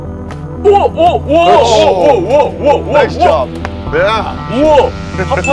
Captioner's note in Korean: 감탄